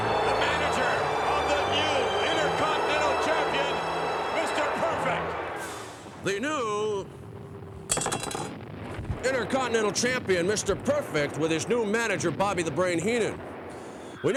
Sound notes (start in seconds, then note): 7.1 panga clanks